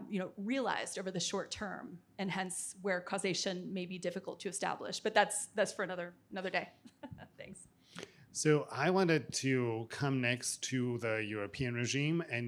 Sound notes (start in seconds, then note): 6.9 chuckling